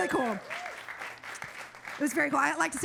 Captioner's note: audience cheers